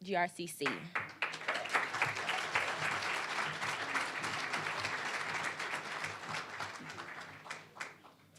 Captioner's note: applause